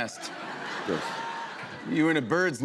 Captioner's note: laughter